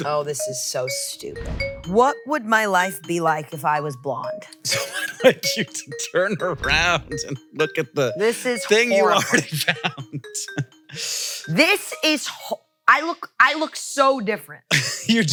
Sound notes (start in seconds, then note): 4.6 laughs